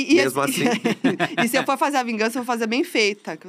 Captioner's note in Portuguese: risos